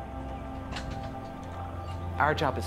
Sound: gate clattering

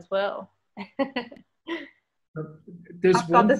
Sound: laughs

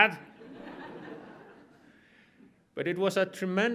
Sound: audience laughs

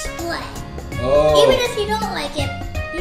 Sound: voiceover

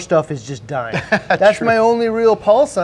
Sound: laughs

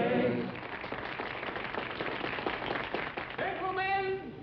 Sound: audience applauding

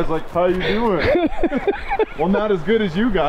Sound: laughing

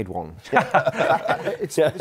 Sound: laughter

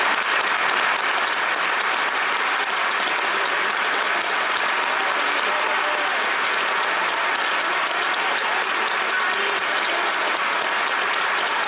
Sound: applause

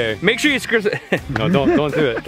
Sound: laughs

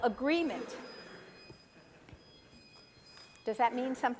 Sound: ringing

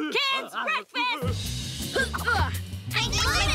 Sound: grunting

